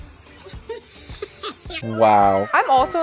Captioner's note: man laughs